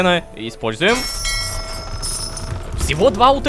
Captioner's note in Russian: Звук корабельного колокола